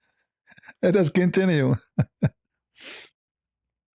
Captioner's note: ketawa